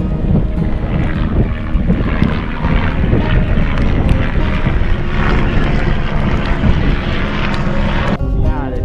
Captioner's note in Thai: เสียงเฮลิคอปเตอร์